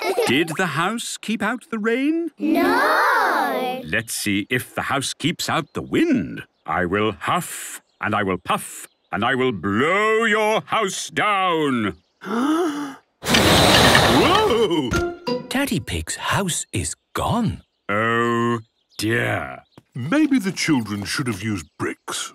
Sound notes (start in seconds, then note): 0.0 laughter; 12.3 inhaling deeply; 13.2 blowing